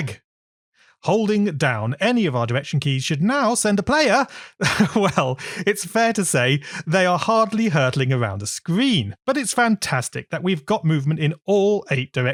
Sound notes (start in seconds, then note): 4.6 laughs